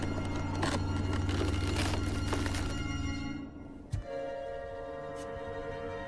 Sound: wood creaks

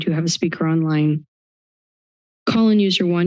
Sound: silence

